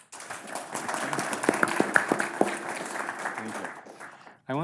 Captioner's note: audience applauds